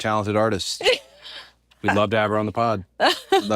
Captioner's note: laugh